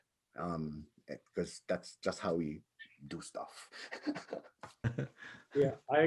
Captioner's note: chuckles